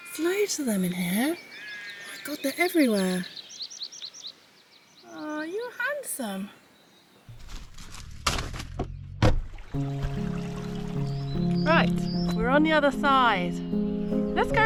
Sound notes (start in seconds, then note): 7.4 slam